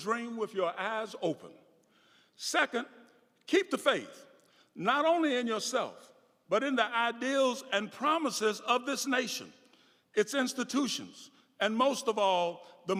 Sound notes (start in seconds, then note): none